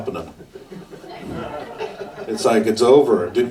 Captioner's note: audience laughs